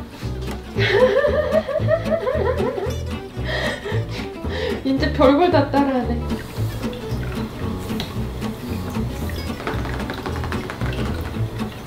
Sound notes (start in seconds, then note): 0.8 laugh; 3.4 inhale & sniffle; 9.2 rapid tapping